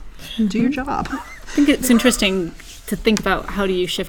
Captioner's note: laugh